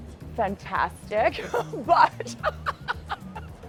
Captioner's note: laughing